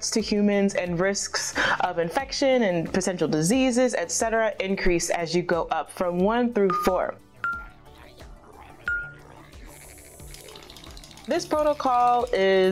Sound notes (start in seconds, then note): 7.8 angry grumbling